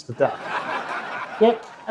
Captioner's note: audience laughs